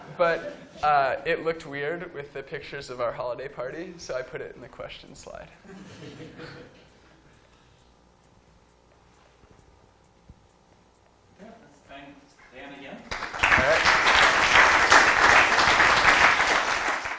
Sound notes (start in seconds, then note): 13.0 applause